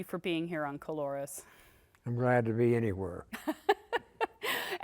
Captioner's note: laughter